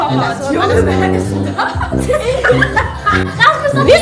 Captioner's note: laugh